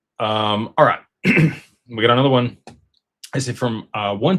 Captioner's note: clears throat